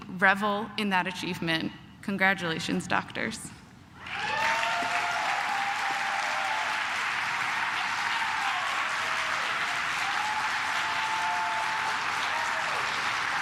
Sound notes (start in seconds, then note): 4.0 cheers; 4.1 claps